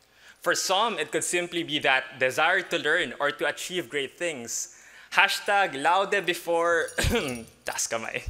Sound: ehem

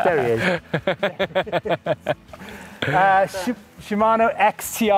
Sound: all three laughing

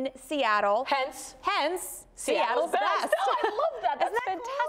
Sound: laughs

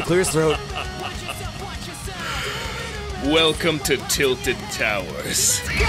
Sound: laughs

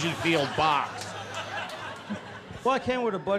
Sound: crowd laughs

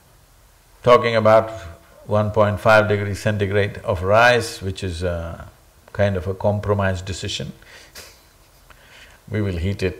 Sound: laughs

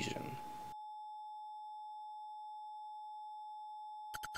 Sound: long Mechanical Tone

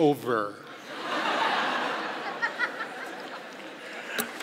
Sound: laughing

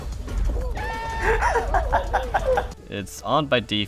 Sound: maniacal laughing; Goofy's yell, laughing continues

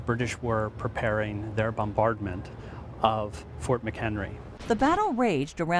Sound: cannon sounds

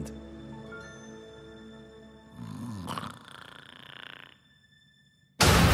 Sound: snores

